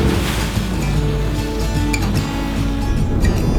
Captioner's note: soft music; ocean waves